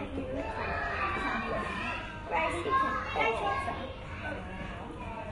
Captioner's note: children talking and shouting in background